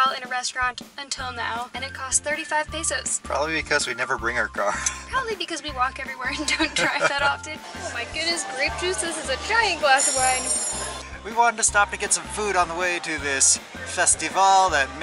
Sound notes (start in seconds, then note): 6.3 laughter